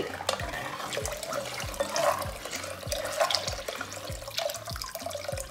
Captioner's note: water trickling